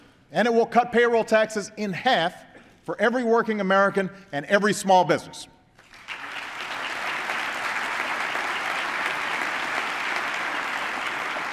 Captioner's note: applause